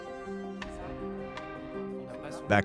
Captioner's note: talking in background